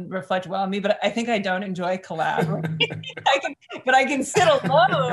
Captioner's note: laughs; chuckles